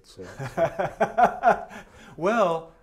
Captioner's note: laughter